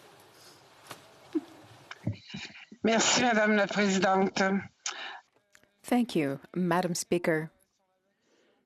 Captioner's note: speaking French